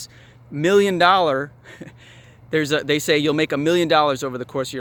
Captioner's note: laughs